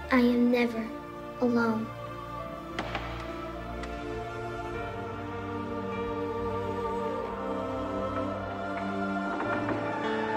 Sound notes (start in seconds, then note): 1.7 wood crackling; 7.4 dramatic music